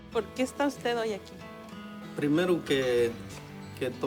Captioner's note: speaking spanish; man speaking spanish